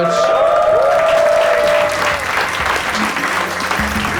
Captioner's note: audience applauding and cheering; bright jazz music